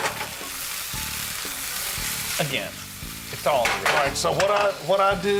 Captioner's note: sizzling